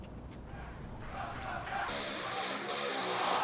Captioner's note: fans chanting; cheers & applause